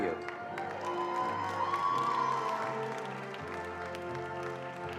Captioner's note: attendees applauding